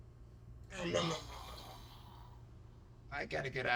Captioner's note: nom nom nom